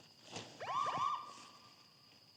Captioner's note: siren wails